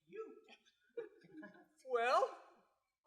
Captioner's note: laughter